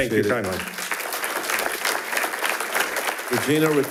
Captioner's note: attendees applauding